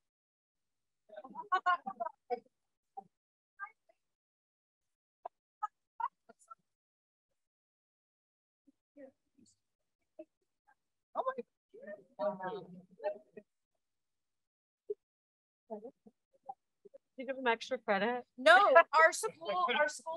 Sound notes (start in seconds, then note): 0.3 silence; 5.0 background conversations